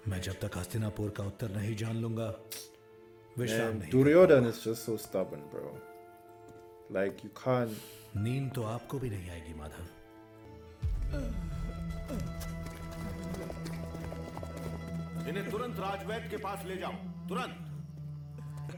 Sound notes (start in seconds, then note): 11.0 Purohit groaning; 12.8 tense music playing